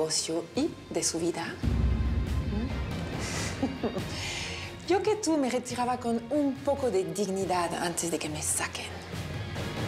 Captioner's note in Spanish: Ríe